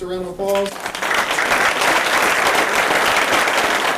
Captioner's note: applause